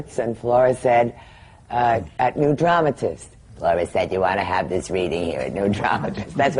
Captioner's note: she does flora’s gravelly voice